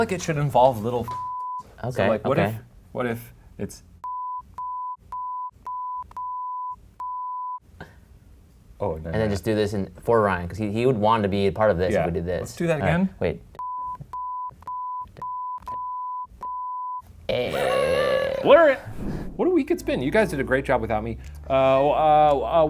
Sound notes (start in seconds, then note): 1.2 beep; 3.6 beeping; 13.6 beeping